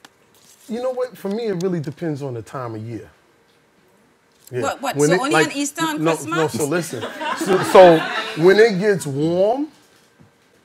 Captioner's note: laughing